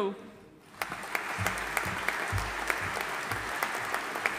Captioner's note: audience applauding